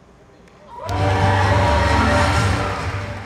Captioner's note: crowd cheers